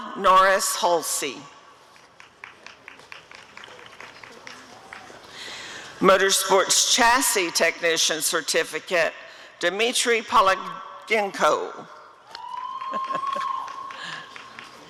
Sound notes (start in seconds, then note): 1.9 applause; 12.3 applause and cheering